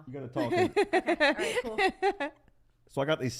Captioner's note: laughs